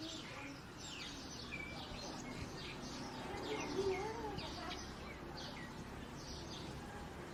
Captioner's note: sounds of birds, wind, and bells